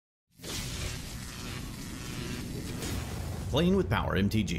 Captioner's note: electricity crackling